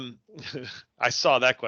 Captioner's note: laughs